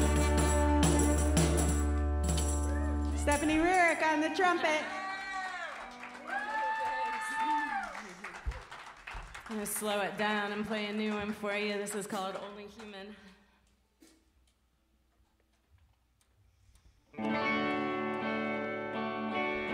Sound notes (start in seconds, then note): 5.3 cheers and applause